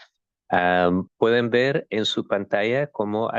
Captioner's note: speaking spanish